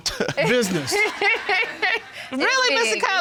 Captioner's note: laughing